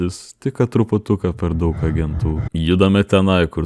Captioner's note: scared